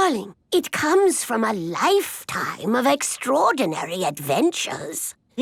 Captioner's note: none